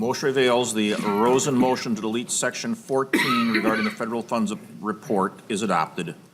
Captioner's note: chorus of ayes